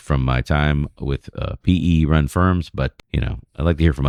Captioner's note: uh